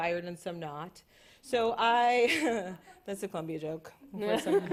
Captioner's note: chuckles